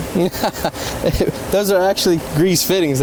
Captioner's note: laughing